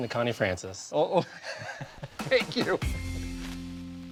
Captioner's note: laughs